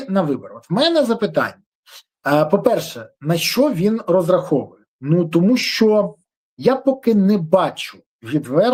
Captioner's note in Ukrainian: сопіння